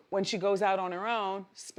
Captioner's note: none